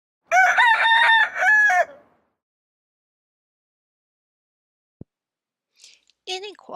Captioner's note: rooster crows